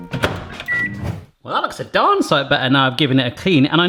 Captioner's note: microwave door slamming; whooshing